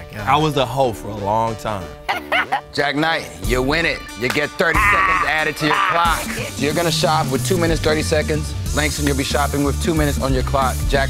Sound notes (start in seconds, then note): 2.0 laugh